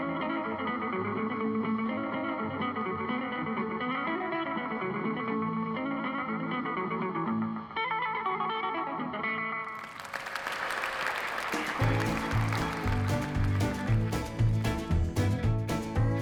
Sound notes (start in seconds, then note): 9.6 audience applauding; 10.6 lively country guitar music